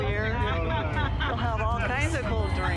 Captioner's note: laughter